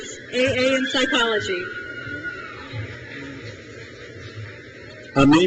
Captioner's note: crowd cheers